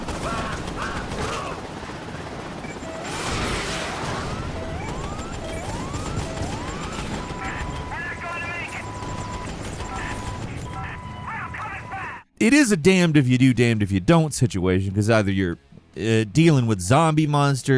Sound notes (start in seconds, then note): 0.0 gun firing; 0.2 soldier screaming; 3.0 missile explodes; 3.4 machine beeping; 9.2 gun firing